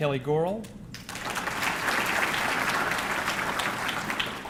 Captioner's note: audience clapping